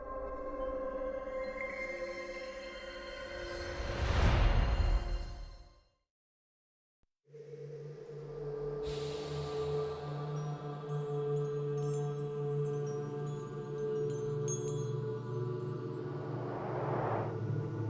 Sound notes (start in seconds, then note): none